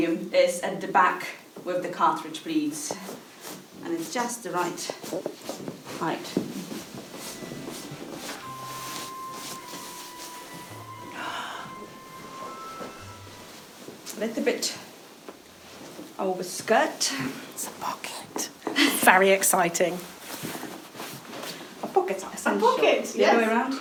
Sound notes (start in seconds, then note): 11.1 exhaling